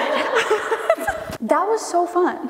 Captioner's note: all laughing